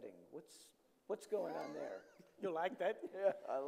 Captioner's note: chuckles